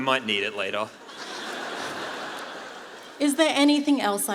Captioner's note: laughter